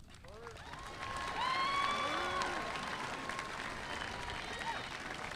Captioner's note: audience applauding